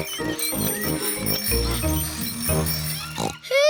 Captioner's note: bicycle bells ringing